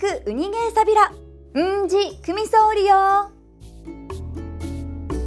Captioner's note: in Okinawan